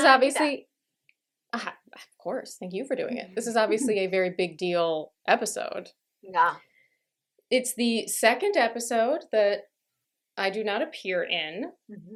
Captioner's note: scoffs